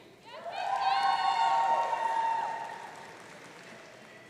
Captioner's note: audience cheering